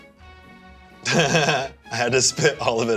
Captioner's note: laughs